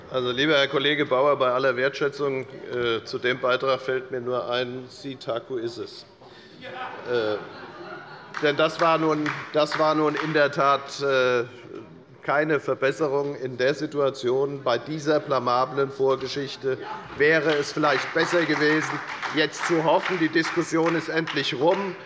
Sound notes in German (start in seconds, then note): 6.6 Beifall bei Abgeordneten der SPD; 17.2 Beifall bei Abgeordneten der SPD